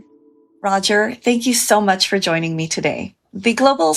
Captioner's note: on video call